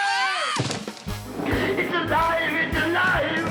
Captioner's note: student screams